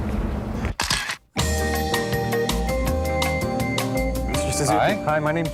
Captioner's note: camera clicks